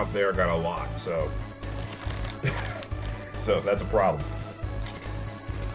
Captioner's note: chuckle